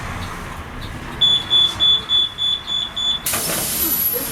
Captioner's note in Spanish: Sonido de apertura de puertas